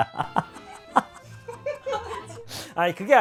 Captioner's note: wheezing